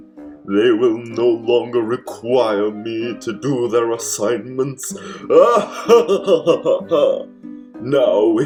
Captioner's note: evil laugh